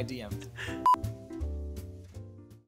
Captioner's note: beeping